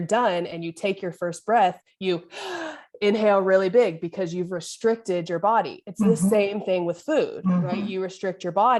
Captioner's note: deep inhale